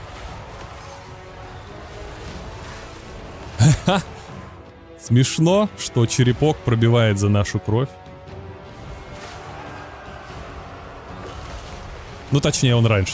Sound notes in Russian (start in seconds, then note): 3.6 смех